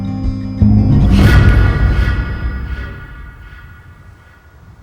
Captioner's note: startling tone